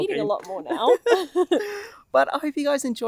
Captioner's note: laughs